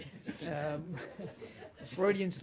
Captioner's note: laughter